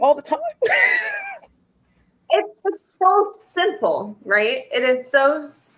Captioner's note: laughter